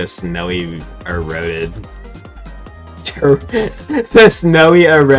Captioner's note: snicker